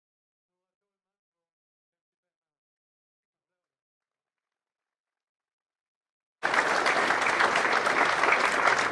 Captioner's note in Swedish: Applåder